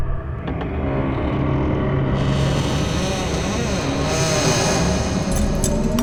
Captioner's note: door Creaking Open